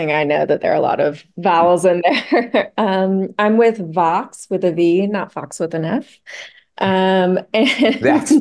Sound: laughs

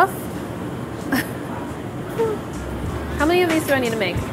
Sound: laughing

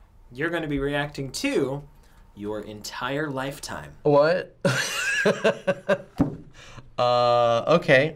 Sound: laughing

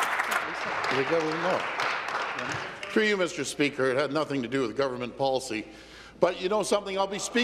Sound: applause

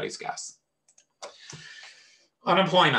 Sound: mouse clicks

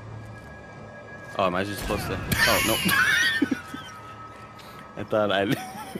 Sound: laughs

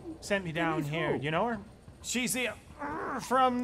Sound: growling noise

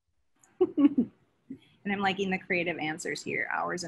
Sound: laughs

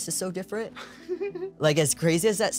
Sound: giggles

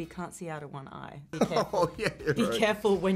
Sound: laughing

